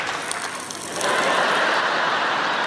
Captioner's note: space dust crackling; audience laughing